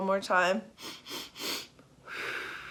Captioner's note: inhaling; exhaling